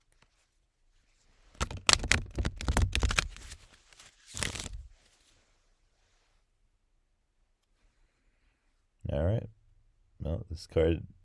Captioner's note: shuffling sounds